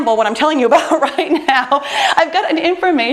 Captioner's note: laughs